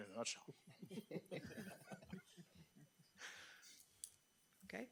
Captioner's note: trustees chuckling